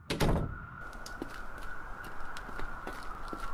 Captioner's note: police sirens